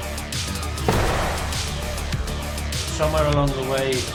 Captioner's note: head thudding